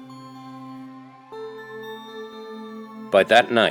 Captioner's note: siren Approaching